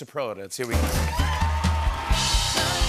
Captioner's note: cheering and applause